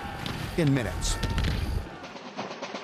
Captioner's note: guns firing; drums beating